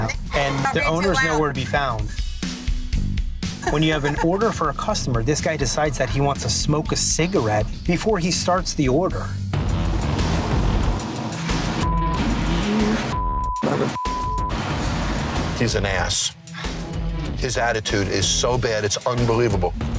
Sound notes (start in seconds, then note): 9.8 upbeat rock music; 11.8 beeping